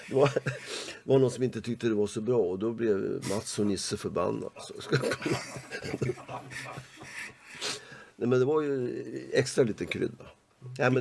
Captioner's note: laugh; laugh